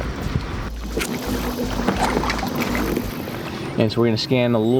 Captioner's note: water waves bubbling